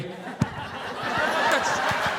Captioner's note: audience laughing